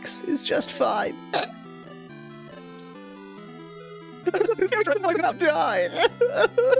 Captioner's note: cough